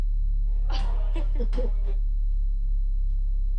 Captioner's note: laughter